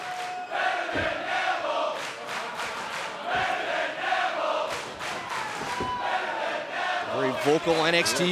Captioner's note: fans chanting